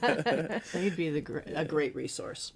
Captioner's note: laughing